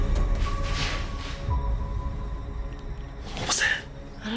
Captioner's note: tense music; paper rustling